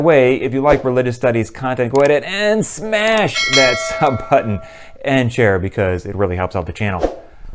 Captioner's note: bell